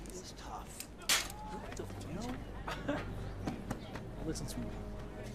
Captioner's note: chuckling